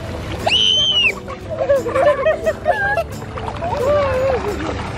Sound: children scream and laugh

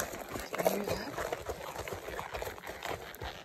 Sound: clip-clop clip-clop clip-clop clip-clop; clip-clop clip clop; clip-clop clip-clop clip-clop clip-clop

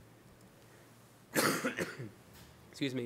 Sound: coughs

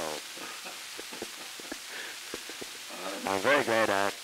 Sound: Murrow, laughing

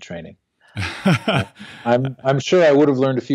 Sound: laughs

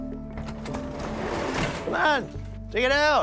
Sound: door opening

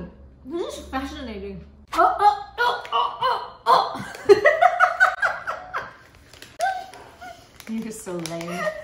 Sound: laughs

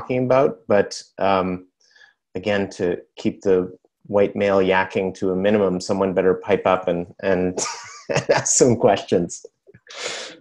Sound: laughs

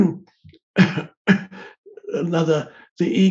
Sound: Eckhart clearing throat and coughing

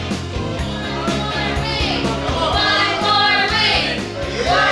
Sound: group Cheering

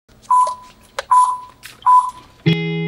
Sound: countdown beeps

